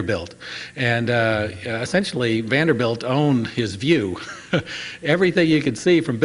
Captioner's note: laughs